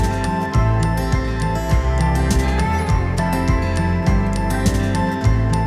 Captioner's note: laughing